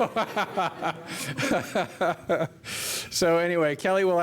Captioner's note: laughter